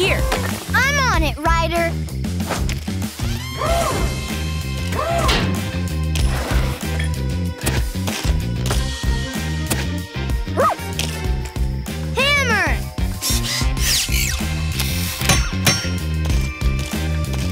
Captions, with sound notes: I'm on it, Ryder. [barking] Hammer.